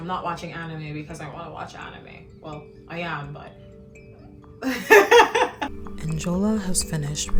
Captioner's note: laughs